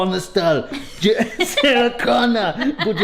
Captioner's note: laughs